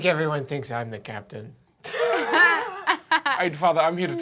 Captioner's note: laughing